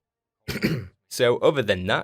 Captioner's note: cough